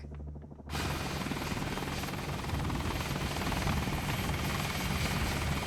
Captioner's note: helicopter blades whirring